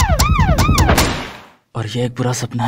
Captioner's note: Police sirens; Smashing sound